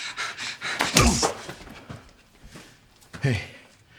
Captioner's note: officer huffing; gun thudding